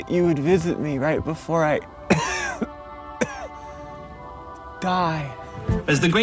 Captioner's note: coughing